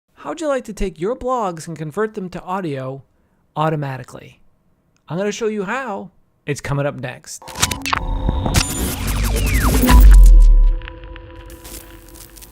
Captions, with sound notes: - How'd you like to take your blogs and convert them to audio automatically? I'm going to show you how, it's coming up next. (sci-fi sounds)